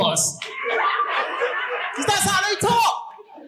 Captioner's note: audience laughing